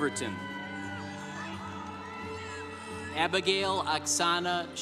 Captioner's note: congregation applauding